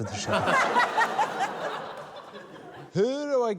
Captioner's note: laughter